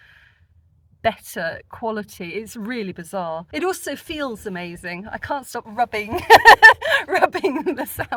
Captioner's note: laughing